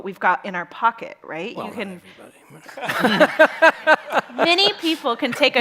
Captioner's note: chuckles